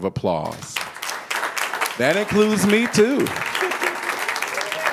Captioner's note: applause